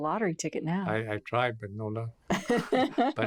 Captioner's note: laughs